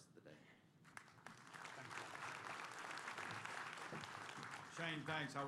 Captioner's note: applause